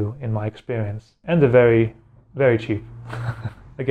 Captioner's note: laughs